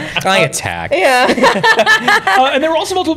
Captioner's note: laughter